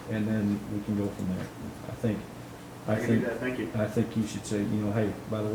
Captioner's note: none